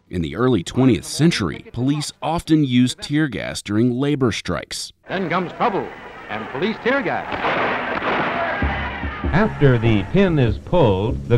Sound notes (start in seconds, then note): 7.3 explosion; 7.6 people shouting